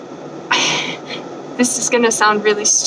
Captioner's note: sigh